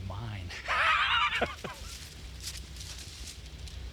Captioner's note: laughs